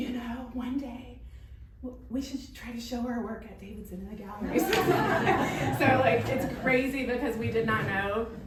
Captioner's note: laughing